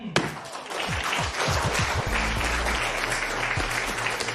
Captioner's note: applause